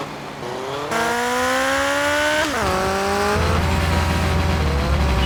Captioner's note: engine revving